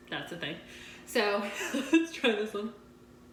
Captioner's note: chuckling